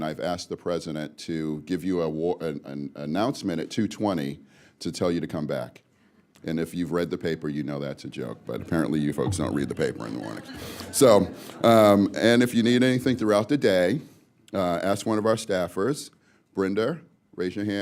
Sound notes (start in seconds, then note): 10.0 laughter